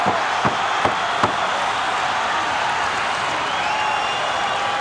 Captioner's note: hands slamming; crowd cheers